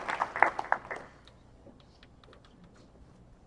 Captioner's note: cheers and applause